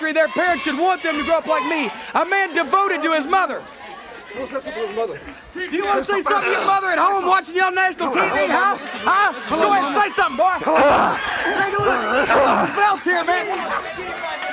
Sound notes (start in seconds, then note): 12.0 groaning